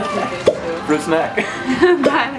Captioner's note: laughing